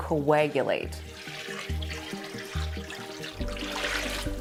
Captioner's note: liquid splashing